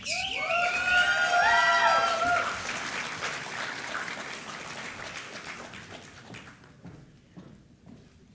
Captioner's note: applause